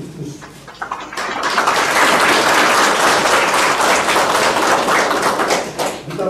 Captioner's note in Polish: oklaski